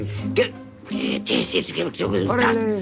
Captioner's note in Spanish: Refunfuña